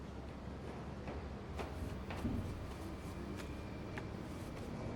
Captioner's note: hammer thudding